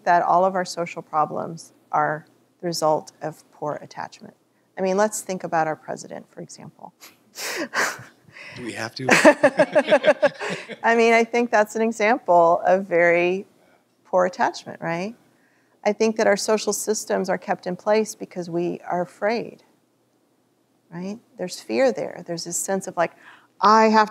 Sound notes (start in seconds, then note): 9.0 laughter